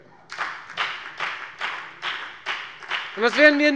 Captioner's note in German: Beifall bei der FDP